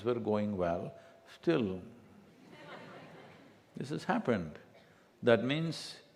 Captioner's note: few laugh